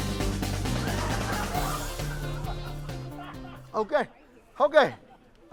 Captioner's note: audience laughing